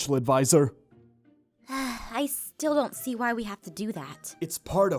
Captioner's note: sigh